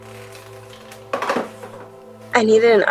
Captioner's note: telephone received clicking